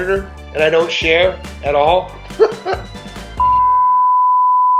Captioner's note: laughs